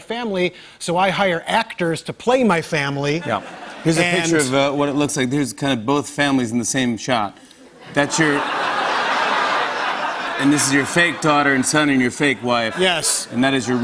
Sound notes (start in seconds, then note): 7.6 laughter